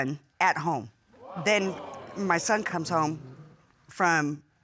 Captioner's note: audience gasps